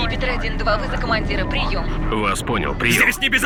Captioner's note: radio